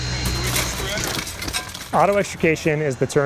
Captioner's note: glass smashing